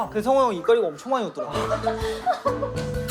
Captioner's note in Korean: 엄청 웃음